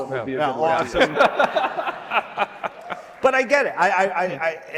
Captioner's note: laughing